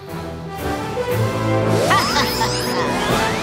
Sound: Ms. Goo Goo laughing

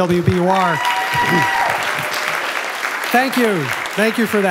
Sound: applause

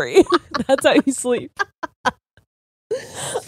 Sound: both laughing

